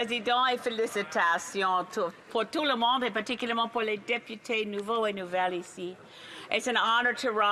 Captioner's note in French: voix de l'interprète